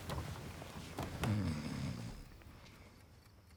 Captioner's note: Oscar snoring